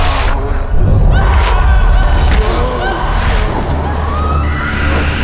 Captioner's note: Irinarkh groans; chaotic screaming